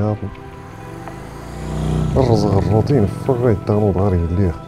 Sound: car accelerates

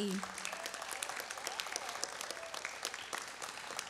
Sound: audience claps

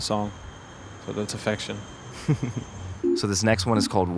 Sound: laughs

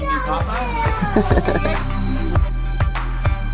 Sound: laughter

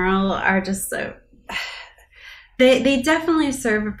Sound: sigh

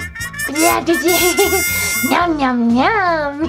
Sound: babbles

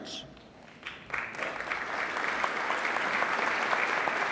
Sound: applauding

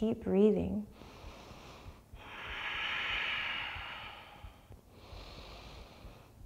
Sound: deep breathing

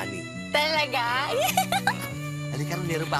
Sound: giggles

